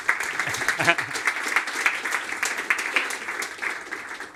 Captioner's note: applause